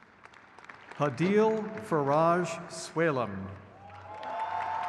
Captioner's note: crowd cheers